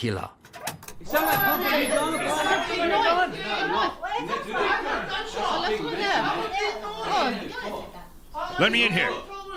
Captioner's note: commotion